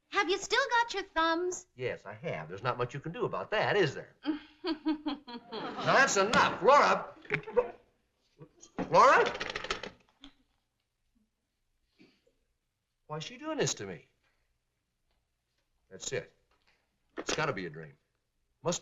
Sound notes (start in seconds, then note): 4.3 chuckling; 7.5 click